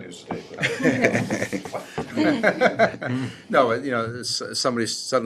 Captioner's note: laughter